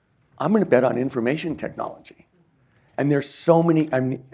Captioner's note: none